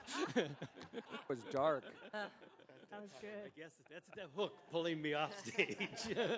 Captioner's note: laughter